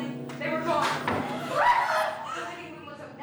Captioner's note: gasp! Scream!